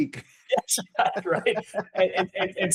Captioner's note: laughs